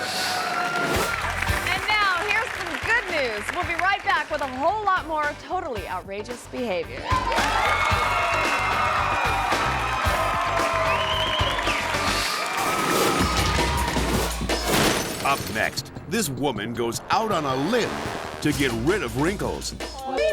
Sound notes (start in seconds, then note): 0.0 audience applause; 0.2 audience laughs; 7.1 audience applause; 12.9 energetic music